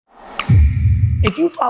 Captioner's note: thud